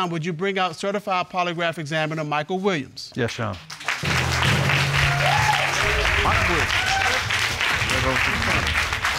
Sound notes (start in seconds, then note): 3.3 applause